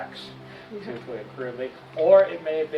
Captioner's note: attendee chuckles